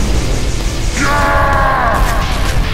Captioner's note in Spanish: Grita